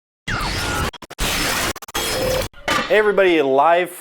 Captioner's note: mechanical crackling